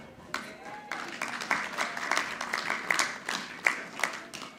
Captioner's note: audience clapping